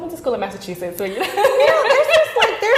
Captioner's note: laughing